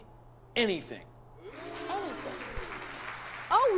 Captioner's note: applause